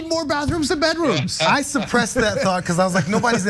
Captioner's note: laugh